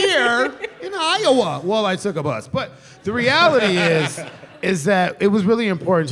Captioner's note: laughter